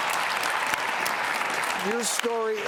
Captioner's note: audience claps